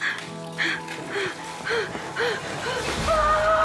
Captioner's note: panting